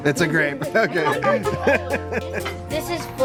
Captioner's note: playful music; chuckles